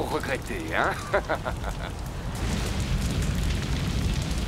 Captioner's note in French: rire